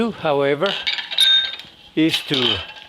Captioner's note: glass clinking